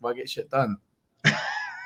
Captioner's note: laughs